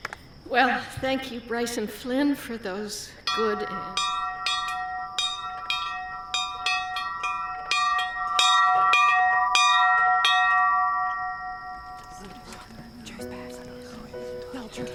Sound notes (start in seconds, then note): 3.2 bell ringing; 12.4 whispering